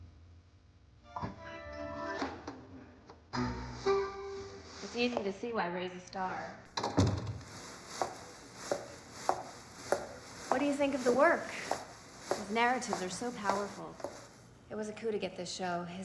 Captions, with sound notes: - Oh my God. - It's easy to see why Ray's a star. (skirt rustling) What do you think of the work? His narratives are so powerful. It was a coup to get this show.